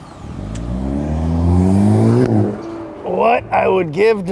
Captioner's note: car engine revving